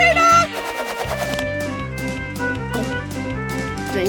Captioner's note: gulps